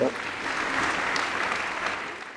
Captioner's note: applause